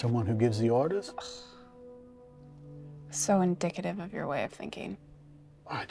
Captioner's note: scoffs